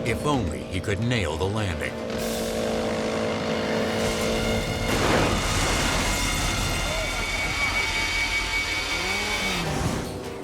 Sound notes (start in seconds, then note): 3.8 vehicles slam; 3.8 thrilling music